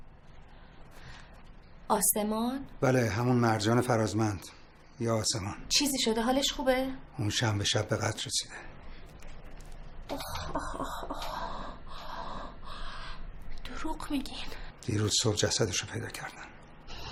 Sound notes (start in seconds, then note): none